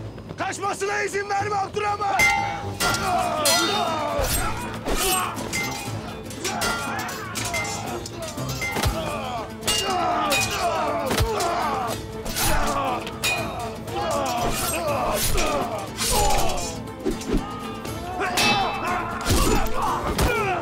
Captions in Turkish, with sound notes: Kaçmasına izin verme Abdurrahman! (Kılıç sesleri) (Dövüş sesleri)